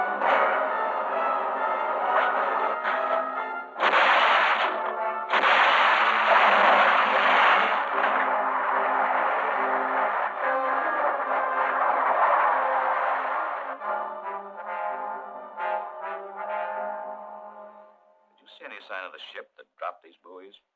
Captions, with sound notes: [loud crashing] [rockets whooshing] Did you see any sign of the ship that dropped these buoys?